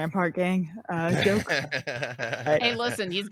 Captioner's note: panel laughs